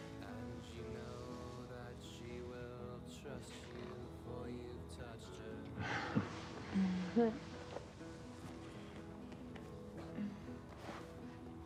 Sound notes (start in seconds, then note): 5.8 Jim chuckles; 6.8 Betsy chuckles